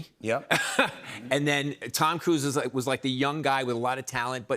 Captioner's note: laughs